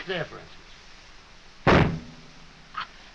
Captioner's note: gunshot